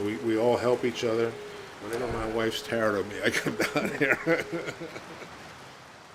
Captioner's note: chuckles